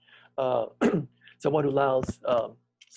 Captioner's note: clears throat